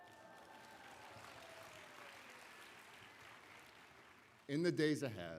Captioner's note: applause